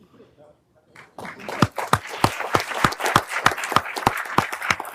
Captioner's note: everyone applauding